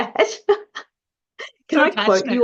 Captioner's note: laughs